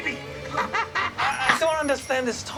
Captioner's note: Frank laughs loudly